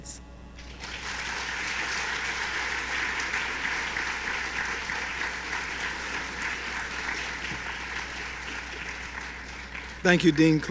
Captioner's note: applause